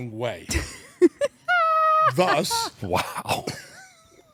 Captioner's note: laugh